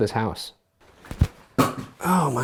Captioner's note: water gun clatters